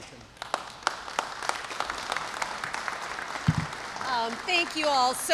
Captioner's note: applause